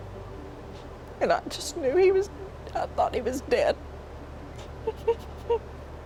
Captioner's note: sobs